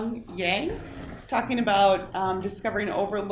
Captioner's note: chair scraping